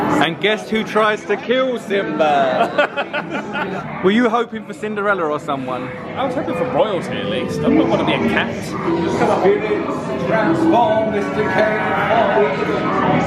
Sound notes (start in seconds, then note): 0.0 twinkling music; 2.4 laughs; 13.0 people chattering